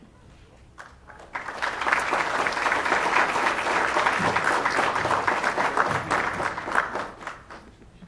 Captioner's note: applause